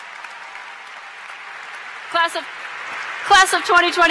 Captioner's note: cheers & Applause